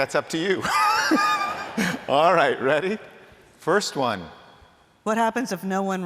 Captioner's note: laughter